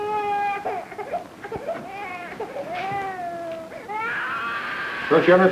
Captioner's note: baby continues crying; baby crying